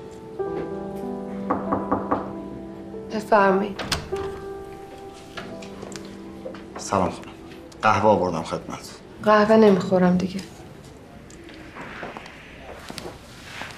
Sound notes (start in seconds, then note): 1.5 door knocking